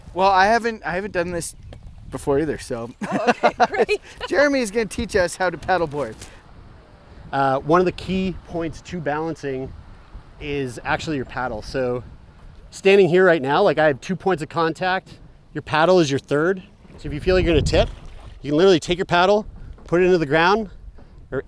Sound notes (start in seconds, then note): 2.8 laughs